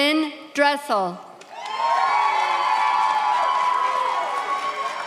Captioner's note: audience cheers